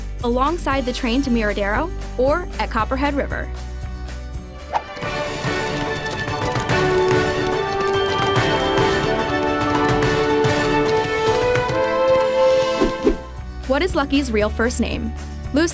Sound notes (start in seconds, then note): 4.2 triumphant music; 7.8 bell ringing; 13.2 triumphant music